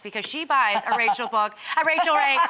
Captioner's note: Rachel laughing